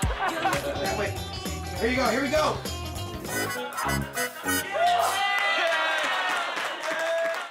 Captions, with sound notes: Wait. Here we go. Here we go. [cheering, applause]